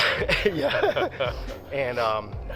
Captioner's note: laugh